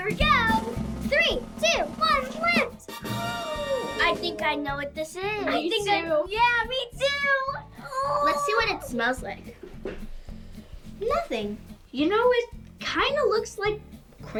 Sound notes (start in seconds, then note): 3.2 gasps